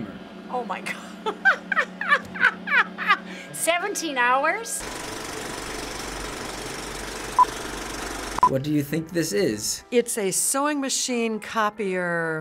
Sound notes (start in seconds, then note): 0.9 laughing; 4.7 movie reel clicks